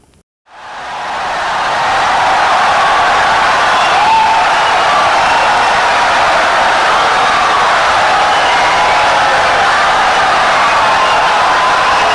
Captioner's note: wild applause and cheering for 17 seconds